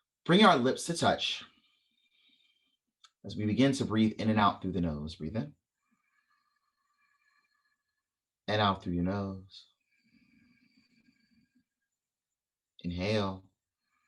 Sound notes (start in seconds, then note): 5.8 inhale; 9.7 exhale